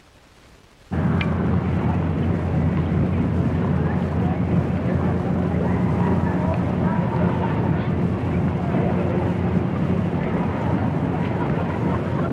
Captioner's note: crowd noise